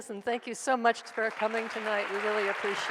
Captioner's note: audience applauds